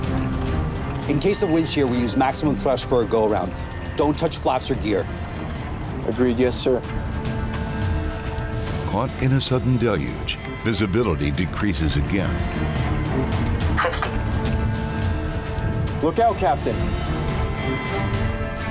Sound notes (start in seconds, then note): 14.1 automated Voice